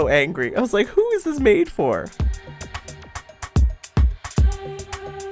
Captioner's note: voiceover